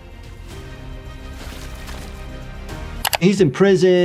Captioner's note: dramatic music; bodies squishing; screen clicking